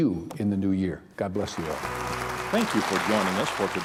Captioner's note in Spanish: aplausos